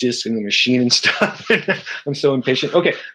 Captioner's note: chuckles